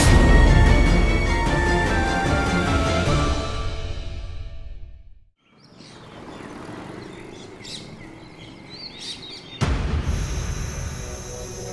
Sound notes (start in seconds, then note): 5.4 birds chirping; 9.3 tyre air leaks